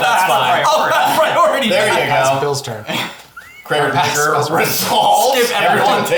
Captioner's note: laughs